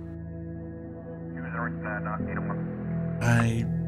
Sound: police radio chatter

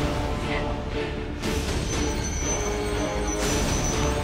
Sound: mystical tinkling

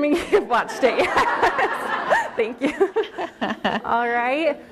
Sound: laughter

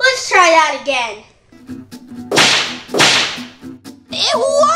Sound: slams

